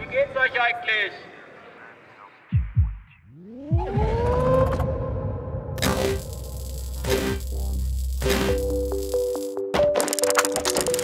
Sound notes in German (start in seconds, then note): 3.3 Pulsieren; 3.6 Schriller Ton; 8.6 Lockere Musik